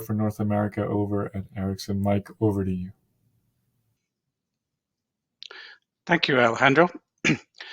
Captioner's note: cough